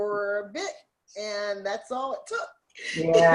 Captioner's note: laughs